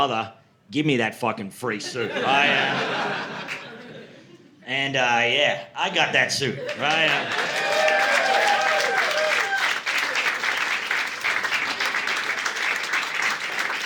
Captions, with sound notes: "Brother, give me that fucking free suit." (audience laughing) And yeah, I got that suit, right? (audience cheering)